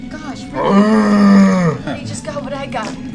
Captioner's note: bear noises